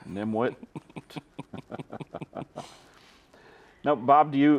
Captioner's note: all chuckling